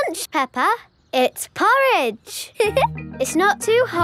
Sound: giggles

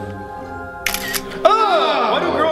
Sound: picture Taking Sound

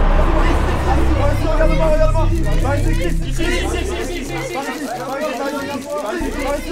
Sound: crowd shouting; cameras clicking

